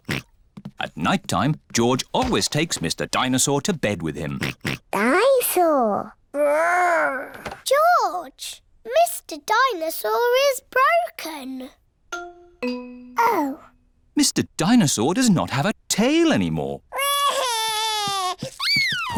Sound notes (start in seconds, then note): 0.0 oinks; 4.3 oinks; 16.9 crying